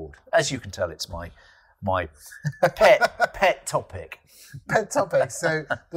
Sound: laughs

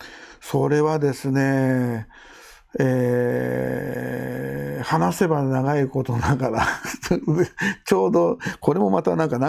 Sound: laughs

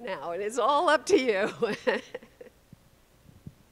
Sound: chuckles

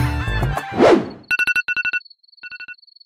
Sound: alarm ringing

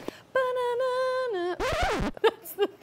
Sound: humming theme

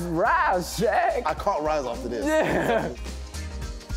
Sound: laughs

